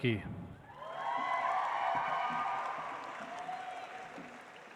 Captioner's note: audience applauds